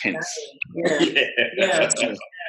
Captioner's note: laughs